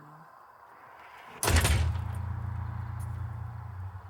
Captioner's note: thudding